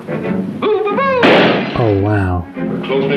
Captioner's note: loud pop